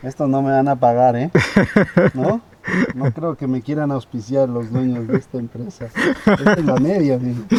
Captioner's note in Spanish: risas